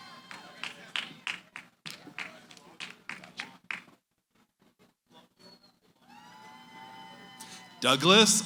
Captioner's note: cheering, applause